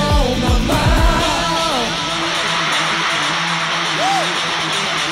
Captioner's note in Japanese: 湧き上がる歓声